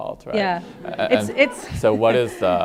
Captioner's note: audience laughing